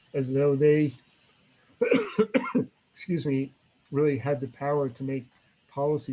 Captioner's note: coughs